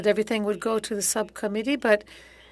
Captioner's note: speaking French